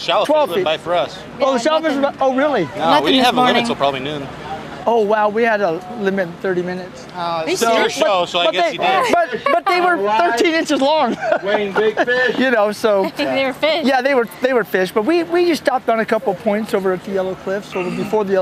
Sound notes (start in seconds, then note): 11.5 laughter